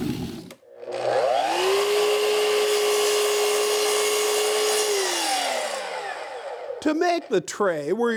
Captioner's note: saw roaring